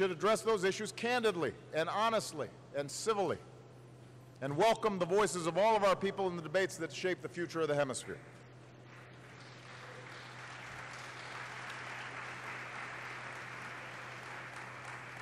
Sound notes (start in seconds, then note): 11.8 applause